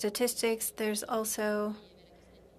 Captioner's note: speaking French